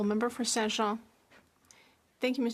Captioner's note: speaking French